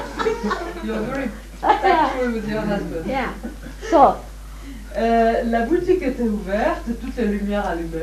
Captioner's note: laughter